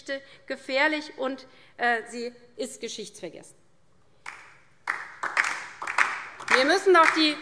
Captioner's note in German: Beifall DIE LINKE